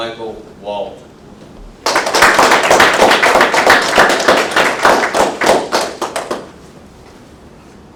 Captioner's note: applause